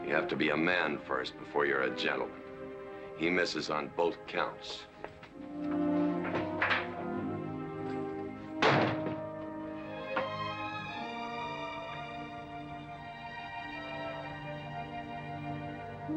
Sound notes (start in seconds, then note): 5.6 door opens; 8.5 door slams shut; 9.6 sad romantic music